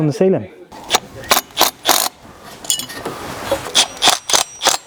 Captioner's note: drill whirring